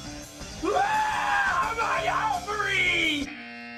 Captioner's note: screams